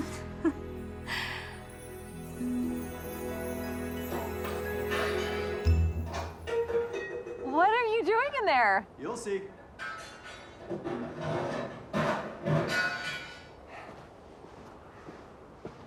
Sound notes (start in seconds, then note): 0.0 laughing; 4.1 clanging